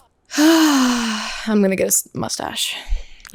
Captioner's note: sighs